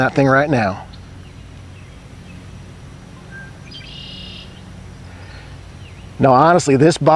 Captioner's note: nature sounds